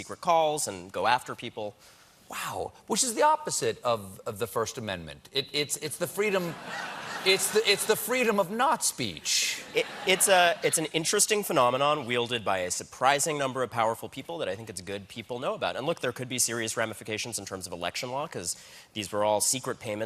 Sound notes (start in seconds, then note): 6.3 laughter